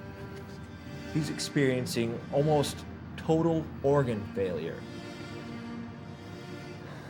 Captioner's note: sighs